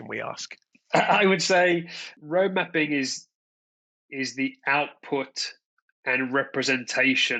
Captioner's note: laughs